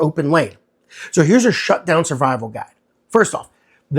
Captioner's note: voice-over